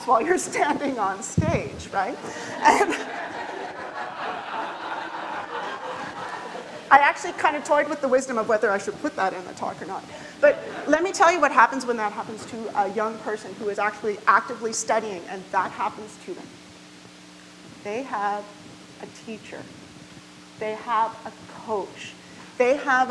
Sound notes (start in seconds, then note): 2.1 audience laughs